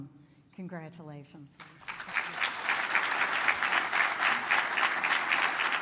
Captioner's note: applause